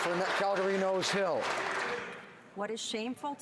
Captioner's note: some Applause